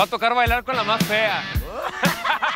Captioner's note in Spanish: Risas